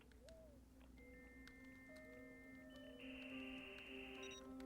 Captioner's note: phone Dialing; modem Buzzing; electronic Beep